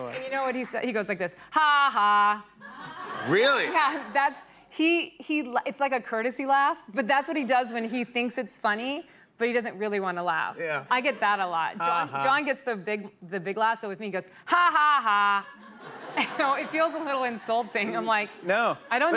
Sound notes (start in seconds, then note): 15.1 laughter